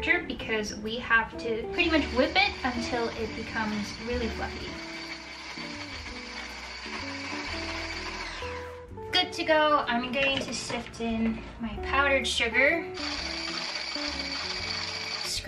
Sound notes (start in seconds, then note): 4.7 electric mixer whirring; 4.7 gentle music; 13.0 mixer whirring